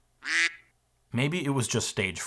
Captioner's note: duck quacking